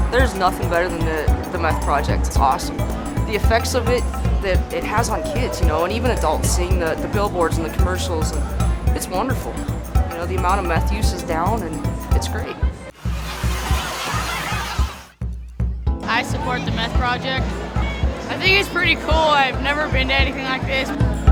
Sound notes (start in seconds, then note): 12.9 students chattering